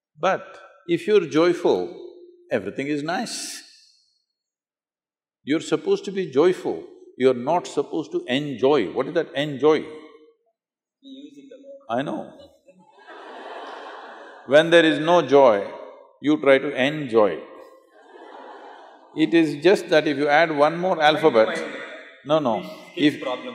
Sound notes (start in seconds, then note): 11.3 laughter; 17.9 laughter